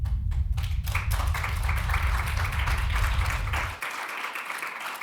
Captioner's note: audience applauding